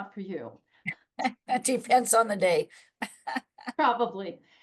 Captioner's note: chuckles